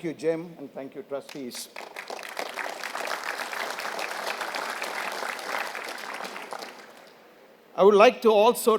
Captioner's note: applause